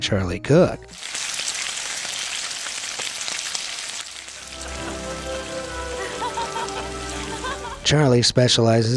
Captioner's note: frying pan sizzles